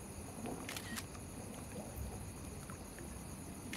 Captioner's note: camera Snaps Picture